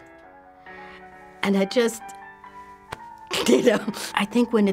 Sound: tearfully

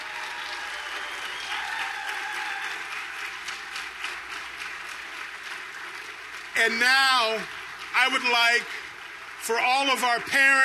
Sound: applause

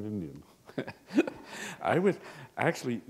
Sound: chuckle

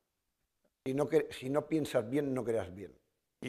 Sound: speaking spanish

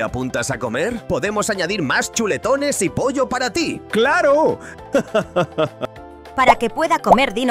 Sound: laughs

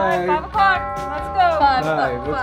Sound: clock chiming

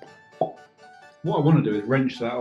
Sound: pop

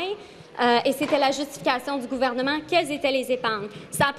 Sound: speaking in French

